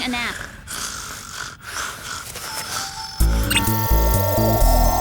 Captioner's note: snoring; buzzing